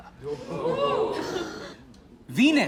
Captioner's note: crowd